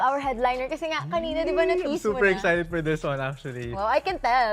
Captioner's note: squeals softly